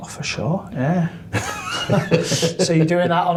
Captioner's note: laughing